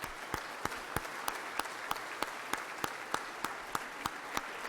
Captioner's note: members clapping